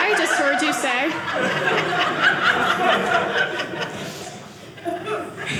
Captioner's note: audience laughing